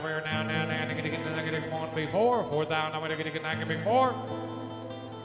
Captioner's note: auctioneer chanting